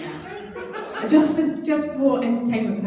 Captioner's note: laughs